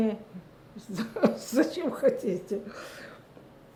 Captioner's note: laughing